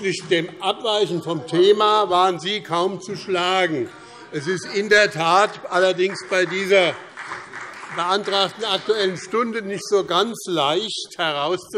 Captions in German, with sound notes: Aber in Bezug auf das Abweichen vom Thema waren Sie kaum zu schlagen. [Beifall BÜNDNIS 90/DIE GRÜNEN] Es ist in der Tat bei dieser Aktuellen Stunde nicht ganz so leicht,